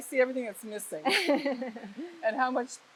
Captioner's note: laughs